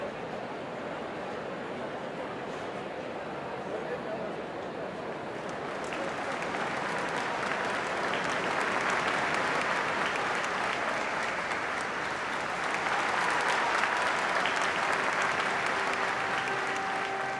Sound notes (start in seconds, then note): 5.3 applause